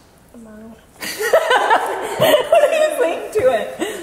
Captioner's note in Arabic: أمي تضحك